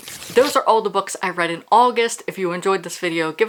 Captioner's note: page rip